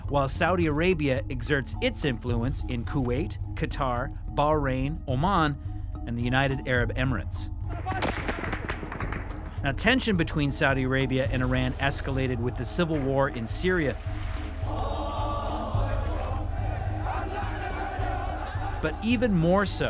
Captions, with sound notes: While Saudi Arabia exerts its influence in Kuwait, Qatar, Bahrain, Oman, and the United Arab Emirates. [gunfire] Now tension between Saudi Arabia and Iran escalated with the civil war in Syria. [chanting in alternate language]